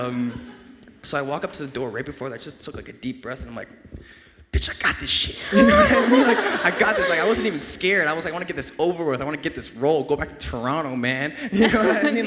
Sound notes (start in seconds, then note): 5.4 everyone laughing; 11.5 laughing